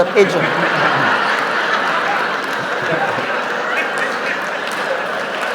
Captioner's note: audience laughs, applauds